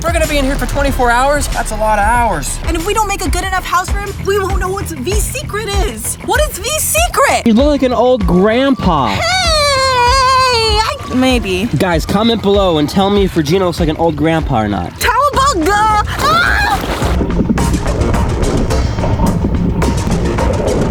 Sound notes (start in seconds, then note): 16.0 screaming; 18.2 soft music